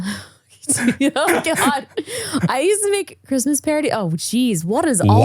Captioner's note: laughs